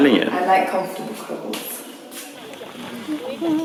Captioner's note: humming; rooster clucking